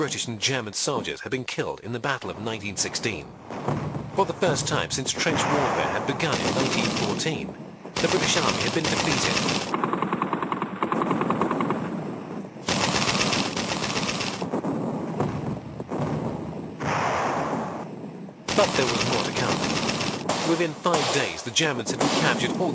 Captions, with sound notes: and German soldiers had been killed in the battle of 1916. For the first time since trench warfare had begun in 1914, the British Army had been defeated. [guns blasting] [heavy artillery booming] But there was more to come. Within five days, the Germans had recaptured